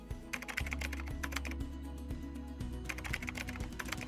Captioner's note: keyboard clacking